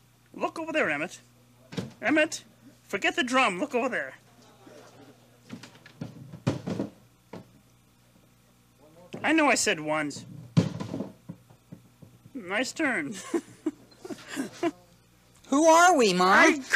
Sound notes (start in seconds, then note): 13.1 giggling